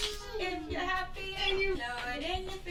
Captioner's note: clapping